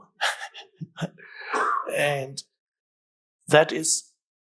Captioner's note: Eckhart laughs